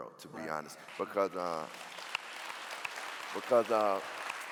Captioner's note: clapping